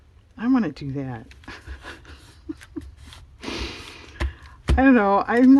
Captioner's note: laughs